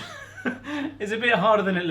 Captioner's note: laughing